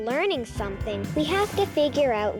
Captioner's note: whooshing sound